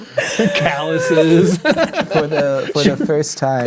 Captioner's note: players laughing